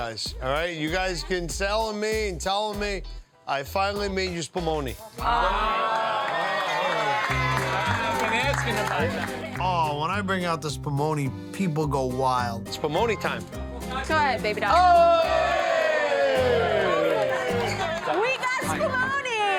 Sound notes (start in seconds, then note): 4.7 soft upbeat Italian music; 5.2 crowd cheers and applauds; 14.6 crowd cheers and applauds